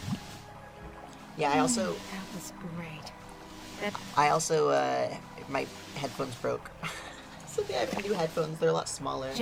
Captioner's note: laughs